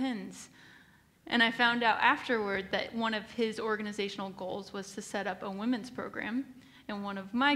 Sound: none

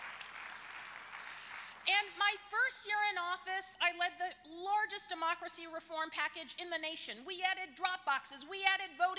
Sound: applause

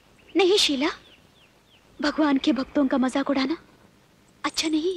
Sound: none

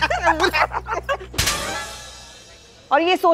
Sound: slap sound

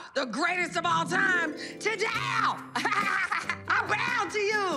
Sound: laughs

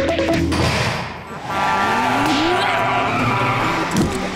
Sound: honking

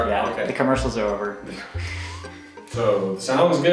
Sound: chuckles

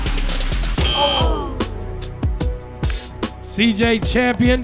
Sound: slow dramatic music; buzzer buzzing

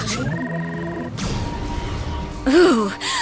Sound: magic

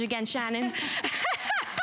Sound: laughter

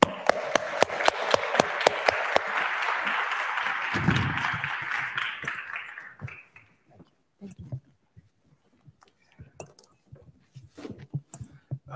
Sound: applause

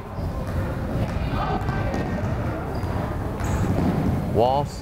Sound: crowd chattering

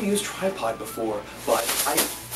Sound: smacks

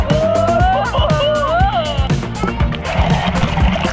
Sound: exclaims

